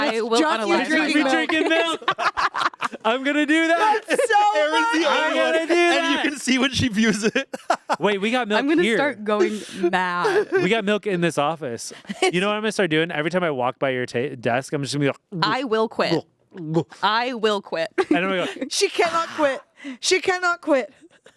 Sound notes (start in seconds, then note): 0.0 laughs; 2.8 everyone laughs; 7.8 laughs; 15.6 gulps